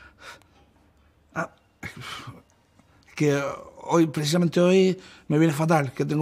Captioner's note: stammers